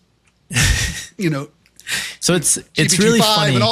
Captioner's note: laugh